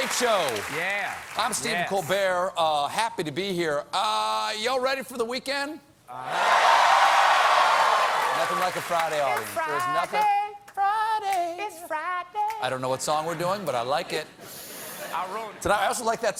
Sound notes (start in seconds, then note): 6.3 cheers and applause